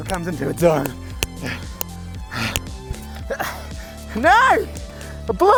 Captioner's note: breathing rapidly